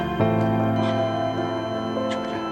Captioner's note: monitor beeping